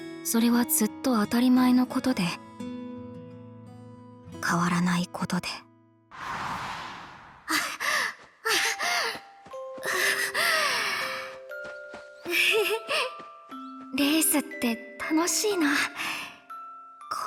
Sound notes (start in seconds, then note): 7.2 chuckles; 7.4 sigh; 7.4 huff